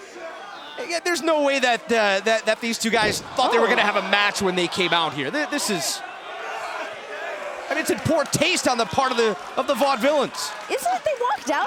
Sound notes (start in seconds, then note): 0.1 crowd cheering; 6.5 crowd cheering